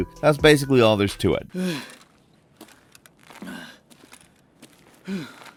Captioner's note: soldier panting